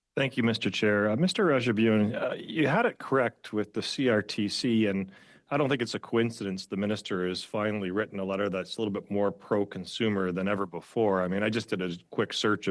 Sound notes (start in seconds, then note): 5.7 speaking french